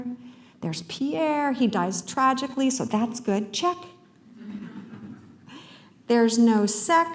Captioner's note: laughter